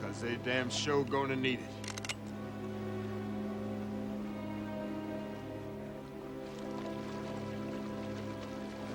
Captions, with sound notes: 'cause they damn sure gonna need it. (gun clicks) (soft tense music)